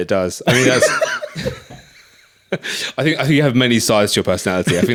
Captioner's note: laughs